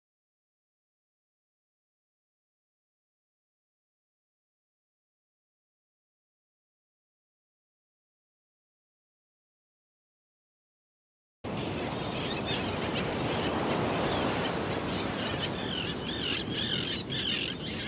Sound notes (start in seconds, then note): 11.5 waves gushing; 15.9 birds chirping